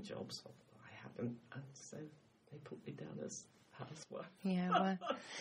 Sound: laughs

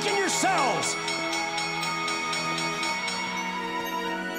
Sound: dinging

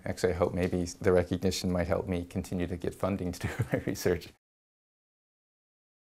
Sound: laugh

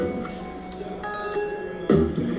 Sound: playful jazz music; bell dings; playful jazz music

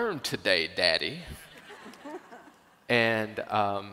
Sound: auidence Chuckles

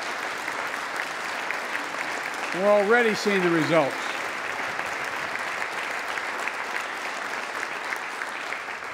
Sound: applause

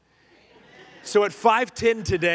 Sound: congregation laughing

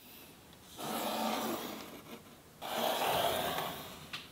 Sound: pencil scratching

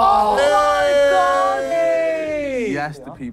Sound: contestants cheering

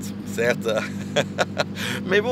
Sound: laughter

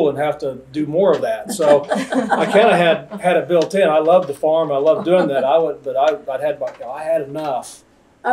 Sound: laughter

